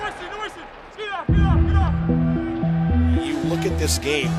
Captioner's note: player yelling